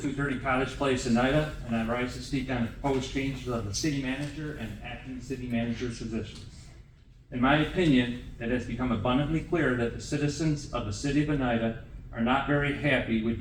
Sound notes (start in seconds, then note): none